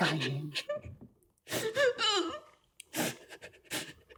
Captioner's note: Mia crying